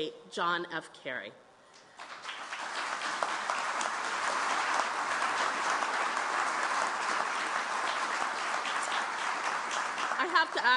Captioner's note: applause